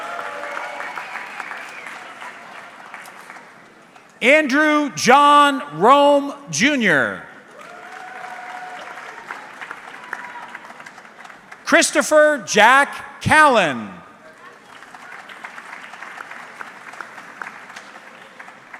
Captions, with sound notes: (audience clapping) Andrew John Rohm Jr. (audience clapping) Christopher Jack Callan. (audience clapping)